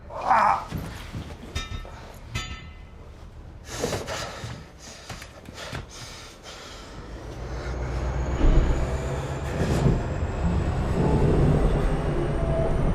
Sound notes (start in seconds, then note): 0.1 man grunting; 1.4 clanging continues; 7.1 engine starting